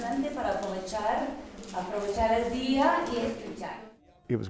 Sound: speaking Spanish

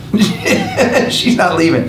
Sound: laughs

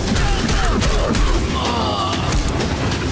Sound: groaning

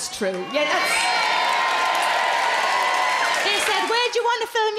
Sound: crowd cheer

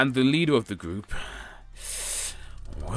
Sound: sigh

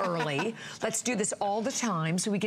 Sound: laughter

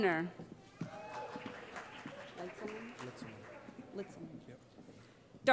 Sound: applause

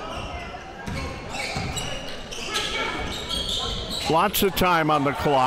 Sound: sneakers squeaking

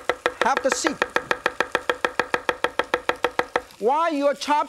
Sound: Yan chops

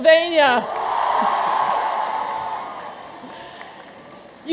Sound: audience cheers

